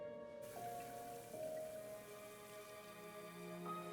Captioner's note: water sprays